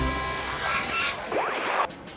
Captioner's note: boaters groaning; melodic music; screen static; swan squawking